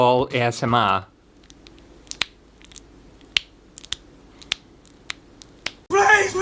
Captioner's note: sloppy Sounds